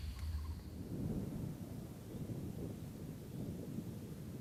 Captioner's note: wind blowing